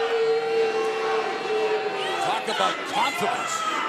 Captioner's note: fans chanting